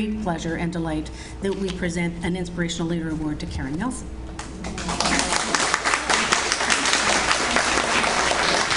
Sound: audience Applauds

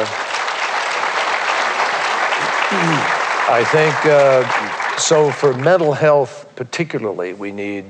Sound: applause

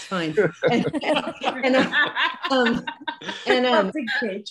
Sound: laughing

